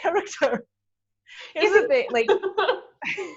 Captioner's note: laughs